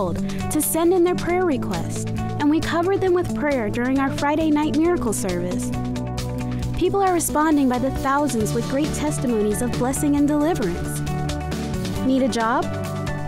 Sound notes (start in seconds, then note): none